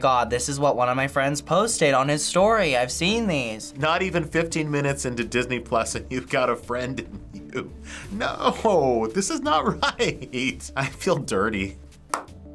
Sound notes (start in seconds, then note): 6.8 chuckles; 12.0 slow clap